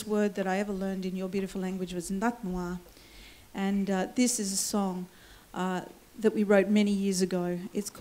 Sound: foreign words

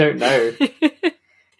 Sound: laughs

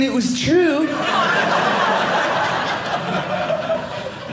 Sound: audience laughing

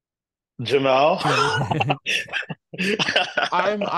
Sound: laugh

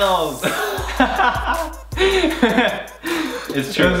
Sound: brothers laugh loudly

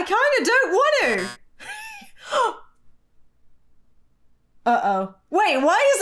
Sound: buzzer beeps; laughing

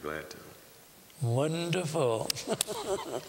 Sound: laughter; whispering

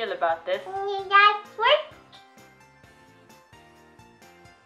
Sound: babbling

